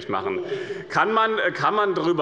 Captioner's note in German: Zurufe der CDU: Oh, oh, oh!